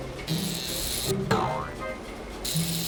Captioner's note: razor whirring